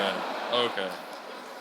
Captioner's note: audience laughing